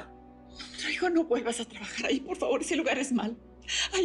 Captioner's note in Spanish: Sollozos